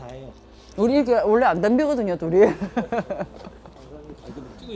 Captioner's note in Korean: 스텝